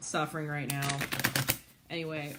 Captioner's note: cards shuffling